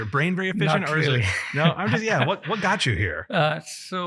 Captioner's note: laughs